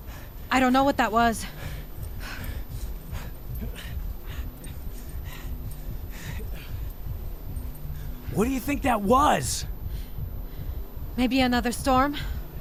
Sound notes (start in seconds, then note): 1.2 dogs nervously panting; 4.8 hearts loudly beating